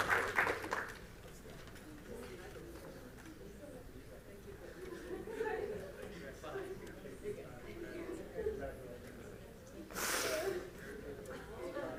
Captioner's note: applause; group chatter